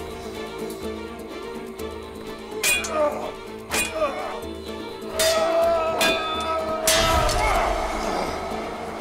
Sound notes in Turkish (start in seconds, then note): 2.6 Kılıç sesleri